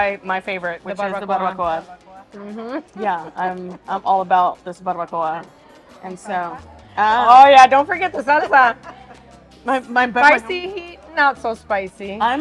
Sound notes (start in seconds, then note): 2.4 chuckles